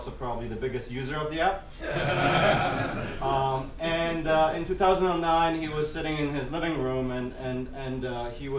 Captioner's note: people laughing